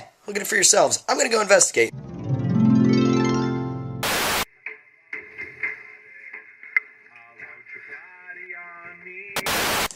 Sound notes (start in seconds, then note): 1.9 a lovely stock harp sound effect